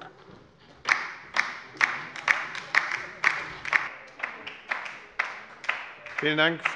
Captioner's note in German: Beifall bei der LINKEN